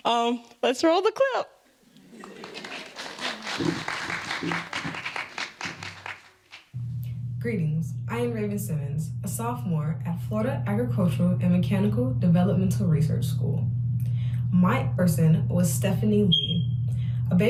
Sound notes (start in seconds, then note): 5.1 laughter; 5.5 applause